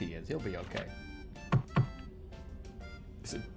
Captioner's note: in-game door knocking